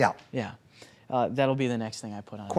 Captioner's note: grunting